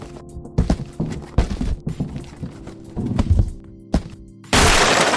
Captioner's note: box tapping ground; box pieces clattering; explosion resounds